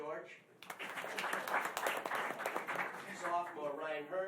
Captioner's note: applause